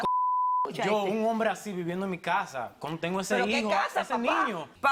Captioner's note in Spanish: Bip